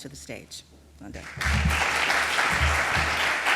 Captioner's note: applause